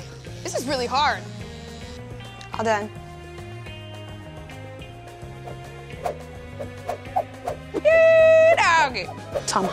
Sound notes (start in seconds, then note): 5.5 rope whipping